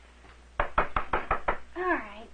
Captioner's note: knocking at door